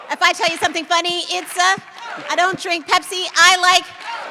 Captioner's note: clapping